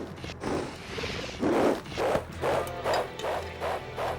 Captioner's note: gusting heavily